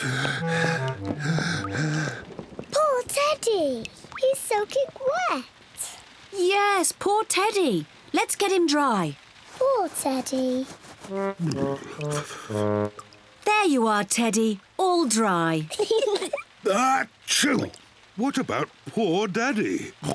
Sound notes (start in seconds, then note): 0.0 breathes heavily; 11.1 shivering; 15.7 kids giggle; 15.8 sneezes; 19.9 oinks